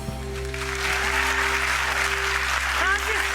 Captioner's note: applause